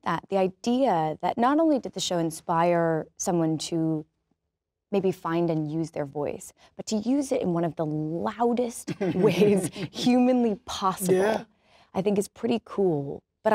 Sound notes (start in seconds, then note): 8.8 laughs